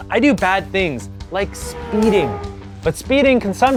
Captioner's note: F1 car sound